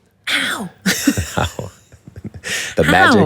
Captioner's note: laughs